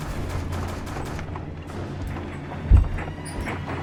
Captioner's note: fist pounding